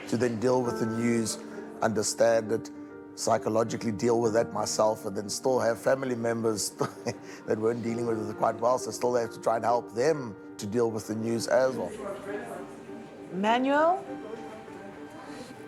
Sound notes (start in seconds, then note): 6.6 chuckles; 11.8 indistinct chatter